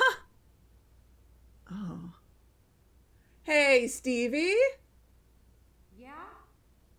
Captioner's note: calling